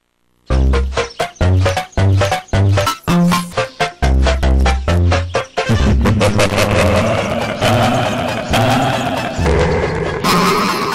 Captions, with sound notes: a Hahahahahaha HAHAuwhfds *small evil laughs* *more small evil laughs* *low evil laughs* *even more small evil laughs*